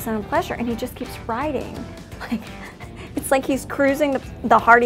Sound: chuckles

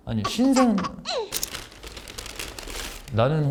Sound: crumple

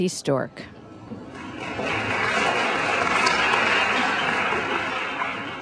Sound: audience applauding

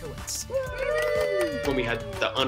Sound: applause

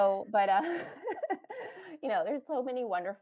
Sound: chuckles

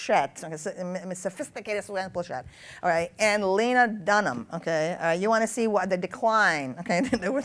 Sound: laughs

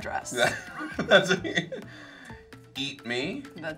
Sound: Nick laughs

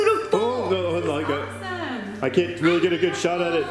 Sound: mumbles

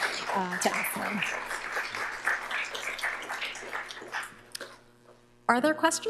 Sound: applause

